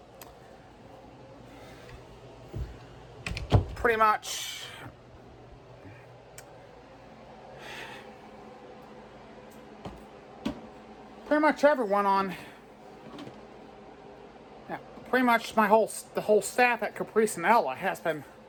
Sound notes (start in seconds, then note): 3.1 bedroom door closes